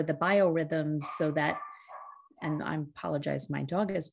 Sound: dog barks

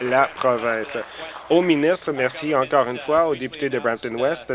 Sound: applause

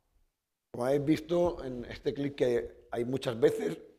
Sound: speaking spanish

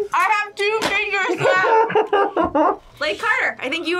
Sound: laughs

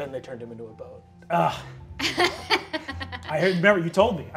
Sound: laughing

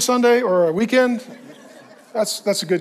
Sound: congregation laughs

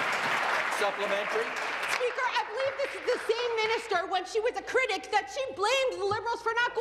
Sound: applause

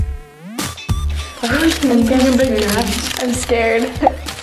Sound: crinkling downs out speakers

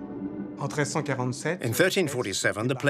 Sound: man speaks french

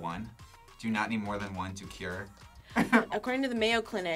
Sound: laughs

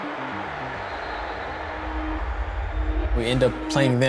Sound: crowd cheering

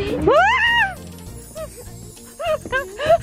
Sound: screaming; laughing

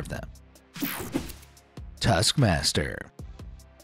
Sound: screen wipe whooshes

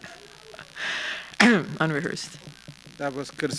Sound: chuckle

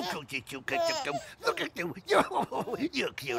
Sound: Gus cooing

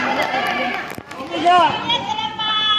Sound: clap

